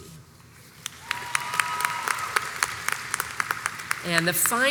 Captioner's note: audience cheers and applauds